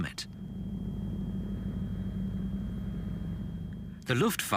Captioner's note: engines rumbling